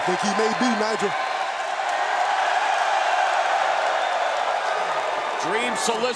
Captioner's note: crowd cheering